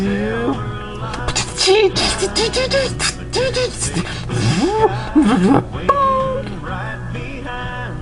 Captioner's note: sounds of preparing food